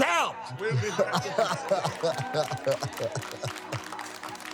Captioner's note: laughs